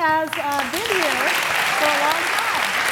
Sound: applause

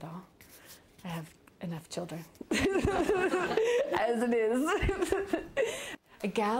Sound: laughs

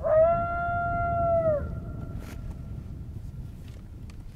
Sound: coyote call howls

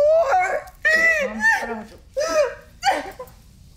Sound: bawling

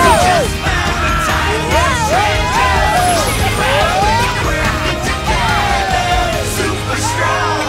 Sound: cheering; laughing, cheering

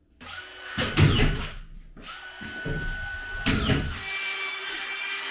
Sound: nail gun whirring; saw buzzing

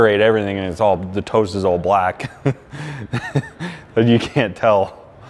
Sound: laughing

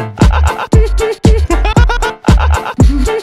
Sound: laugh section

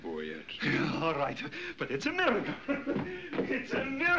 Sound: laughs

